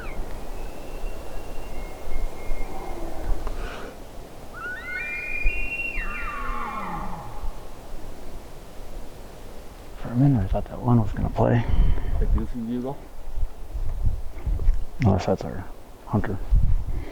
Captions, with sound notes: (Multiple elk bugling) (Elk bugling) For a minute, I thought that one was going to play. That goofy bugle? Unless that’s our hunter...